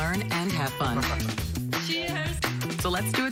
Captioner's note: laughs